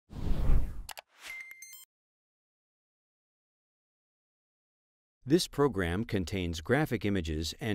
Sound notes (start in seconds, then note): 0.2 loud swooshing; 0.8 keyboard types; 1.0 machine beeping